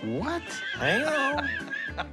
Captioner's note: laughing